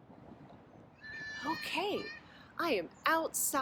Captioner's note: kids playing in the background